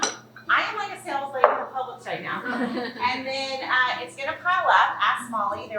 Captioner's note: laughing